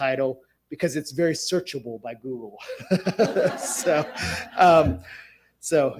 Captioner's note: audience laughs